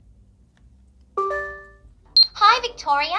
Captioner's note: screen beeps